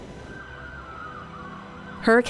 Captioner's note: sirens